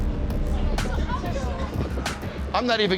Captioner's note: chatter